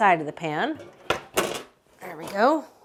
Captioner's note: pan clunking